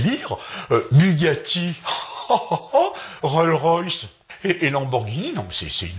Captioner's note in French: rire